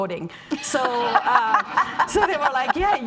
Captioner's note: laughing